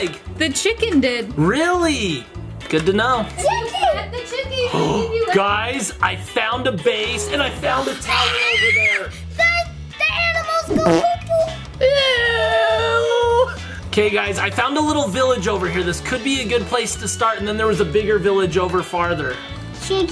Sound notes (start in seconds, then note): 4.9 gasps; 10.7 fart sound